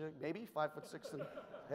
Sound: audience chuckles

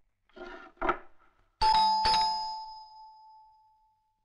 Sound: door Bell

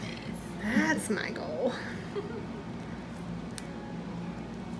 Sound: patient giggles

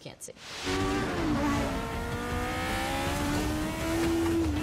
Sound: race car engine zooms

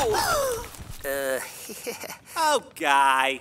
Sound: gasp

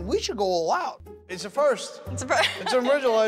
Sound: laughing

